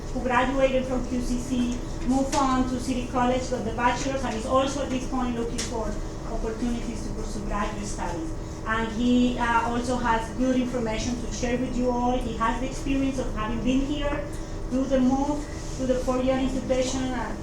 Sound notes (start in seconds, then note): none